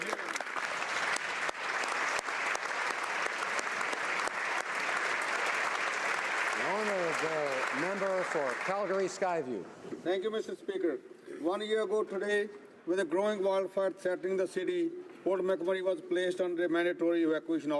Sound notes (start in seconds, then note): 3.7 applause